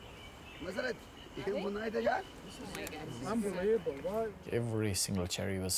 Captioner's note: man speaking in foreign language